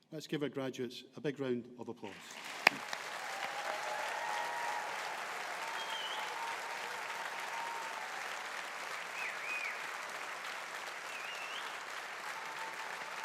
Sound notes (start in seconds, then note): 3.0 audience applauding